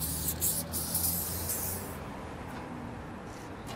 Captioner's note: traffic noise